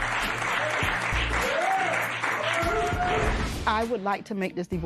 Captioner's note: cheering